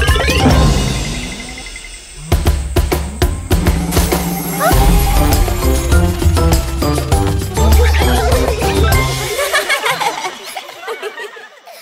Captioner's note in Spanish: Gritos; Música Alegre; Risas